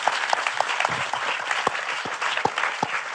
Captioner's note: applause